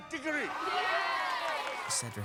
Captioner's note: all cheering